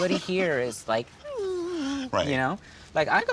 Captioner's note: condescending giggle